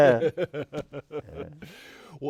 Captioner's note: laughter